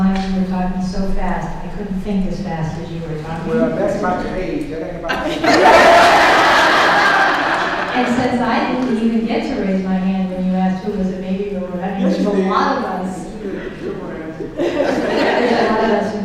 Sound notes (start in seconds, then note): 5.0 laughter; 14.3 speaking off mic